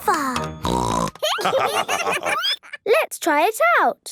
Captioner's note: snorting; laughter